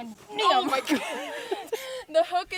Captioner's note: groans